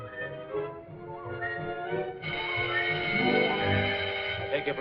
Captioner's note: alarm ringing